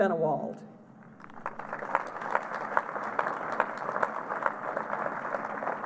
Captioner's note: applause